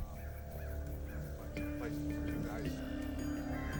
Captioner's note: crows cawing